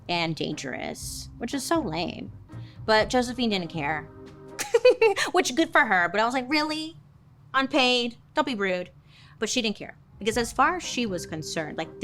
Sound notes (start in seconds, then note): 4.6 laughs